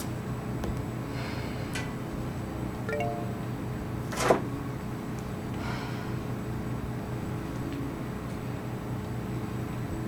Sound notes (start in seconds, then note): 2.9 phone chimes